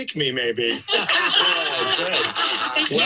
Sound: laughter

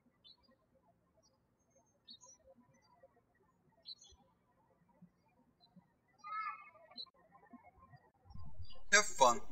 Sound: birds chirping

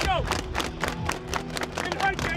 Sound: football players clapping

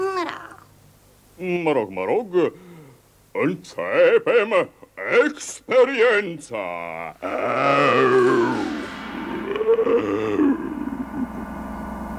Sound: roars

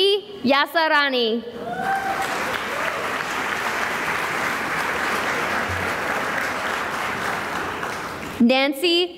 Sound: cheering and applause

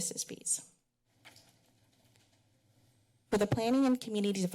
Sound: pause

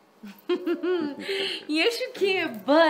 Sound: both laughing

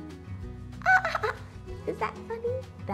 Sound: giggle

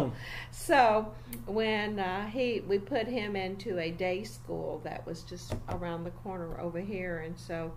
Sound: taps table

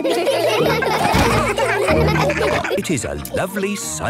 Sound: Steven giggles; all laughing

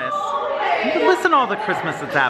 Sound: children yelling

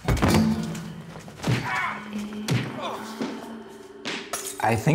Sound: commotion; spooky whispers: Iiiiichaboooddd

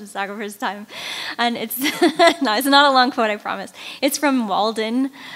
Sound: laughing

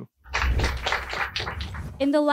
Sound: clapping

